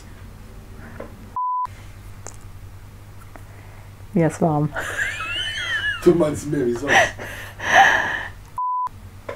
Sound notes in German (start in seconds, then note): 4.7 lacht; 6.7 Aus dem Off